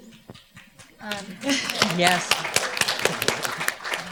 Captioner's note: audience applauding